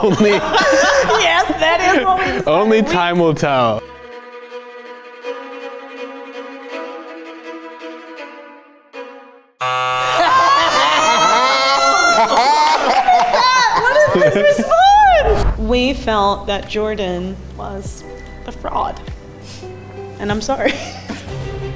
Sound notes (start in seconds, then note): 0.0 laughs; 3.7 intense music; 9.6 buzzer; 21.0 intense music; 21.0 laughs